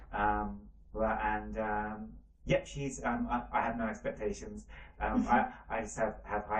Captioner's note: laughs